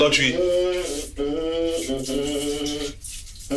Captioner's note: water splashing, still humming